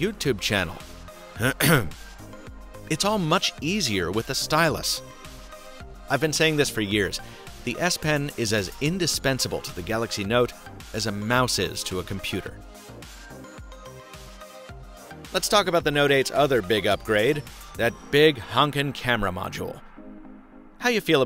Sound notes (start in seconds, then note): 1.4 clears throat